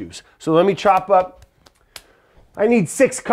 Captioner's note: hands smacking